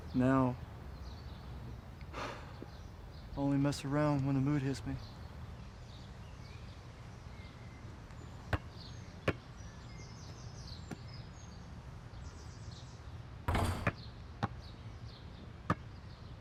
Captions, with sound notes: Now I only mess around when the mood hits me. (birds chirping)